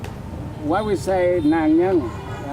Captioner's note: speaks foreign language